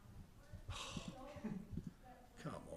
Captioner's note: exhales sharply